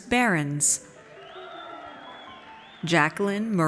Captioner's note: audience cheers